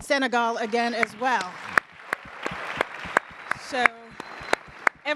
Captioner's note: audience applauds